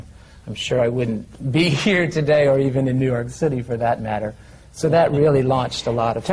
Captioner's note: laughs